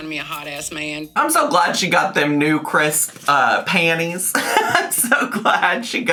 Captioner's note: laughs